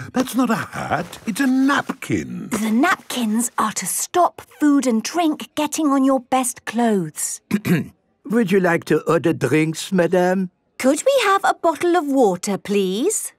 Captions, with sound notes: That's not a hat! It's a napkin! - The napkins are to stop food and drink getting on your best clothes. - (clears throat) Would you like to order drinks, Madam? - Could we have a bottle of water, please?